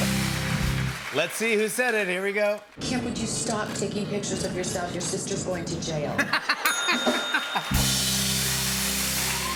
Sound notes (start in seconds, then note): 6.6 ding!